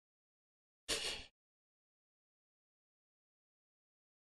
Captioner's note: laughs softly